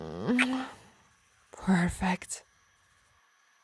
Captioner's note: kiss